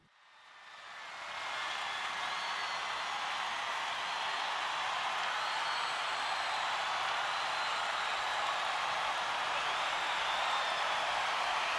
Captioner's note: concert crowd cheering